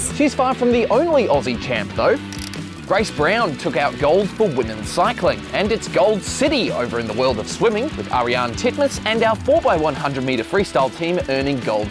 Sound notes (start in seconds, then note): none